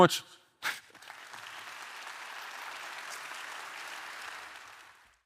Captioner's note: audience clapping